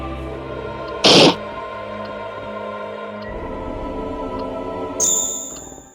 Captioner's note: haah… hah…